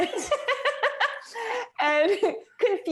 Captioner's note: laughter